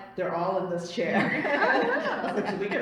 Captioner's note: laughter